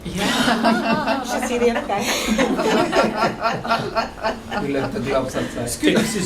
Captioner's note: laughter